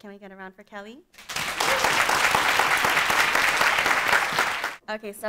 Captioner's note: audience applauding